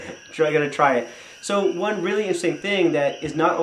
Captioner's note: laughter